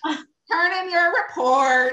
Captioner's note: laughs